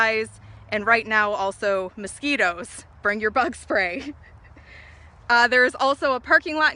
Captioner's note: laughs